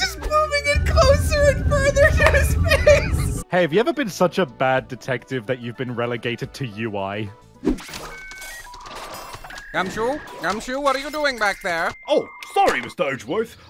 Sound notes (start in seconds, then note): 7.8 robotic noises